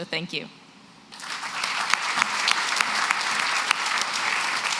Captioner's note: applause